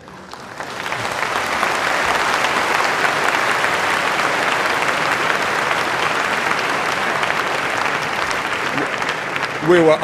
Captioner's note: applause